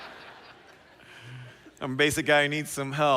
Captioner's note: laughter